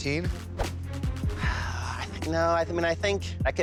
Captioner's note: sighs